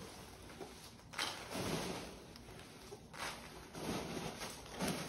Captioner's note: peanuts rustling